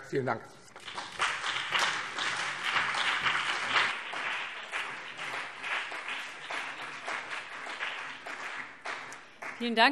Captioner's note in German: Beifall BÜNDNIS 90/DIE GRÜNEN und vereinzelt CDU